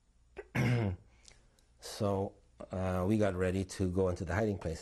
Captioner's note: clearing throat